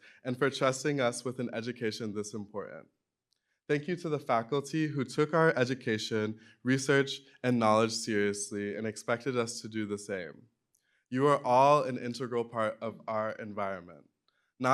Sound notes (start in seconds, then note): none